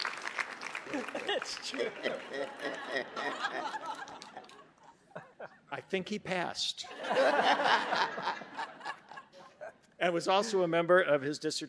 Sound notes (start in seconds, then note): 2.5 audience laughing; 6.9 audience laughing